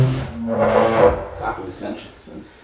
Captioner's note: stone slab scraping